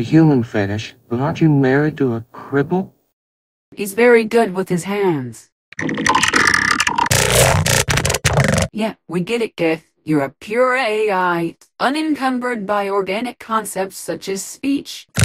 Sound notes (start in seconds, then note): 5.7 Geth Noises